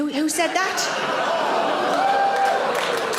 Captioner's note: audience groans; audience claps